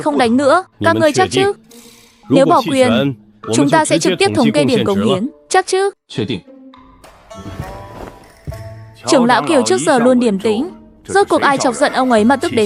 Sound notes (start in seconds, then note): none